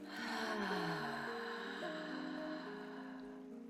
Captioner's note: loud exhale